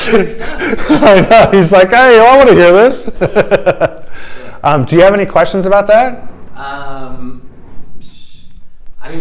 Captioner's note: laughter; laughter